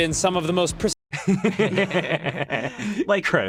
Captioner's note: group laughing